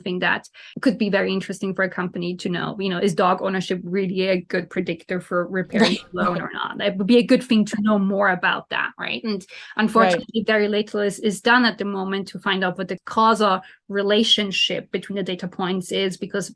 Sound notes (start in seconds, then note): 6.6 laughs